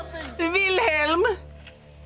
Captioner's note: panicked voice; mimicks accent